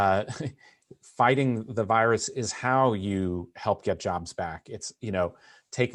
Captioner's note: laughter